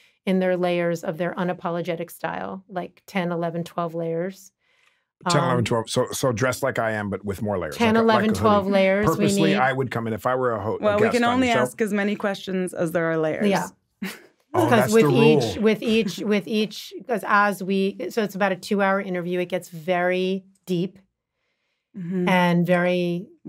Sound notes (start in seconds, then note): 14.5 chuckles